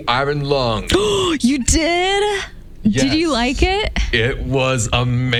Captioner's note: gasp